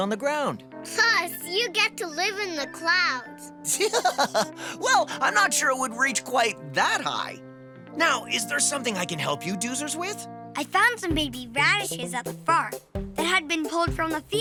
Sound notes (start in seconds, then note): 1.9 laughs